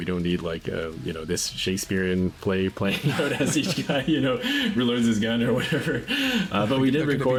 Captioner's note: laughs